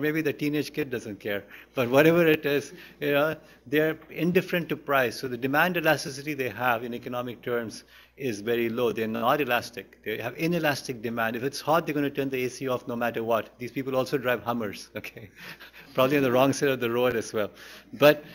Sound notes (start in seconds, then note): 15.0 laughter; 15.0 laughs